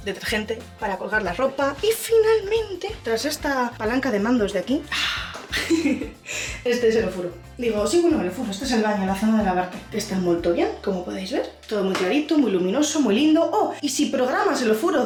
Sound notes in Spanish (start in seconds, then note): 5.4 risas